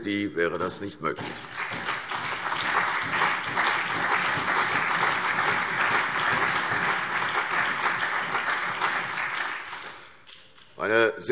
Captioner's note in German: Allgemeiner Beifall